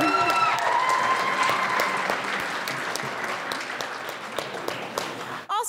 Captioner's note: audience applauds and cheers